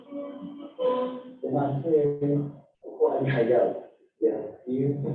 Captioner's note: non-english speech